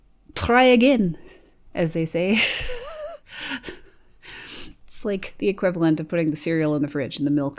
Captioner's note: chuckles